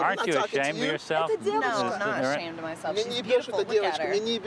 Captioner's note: speaking russian; speaking russian